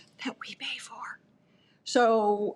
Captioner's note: whispering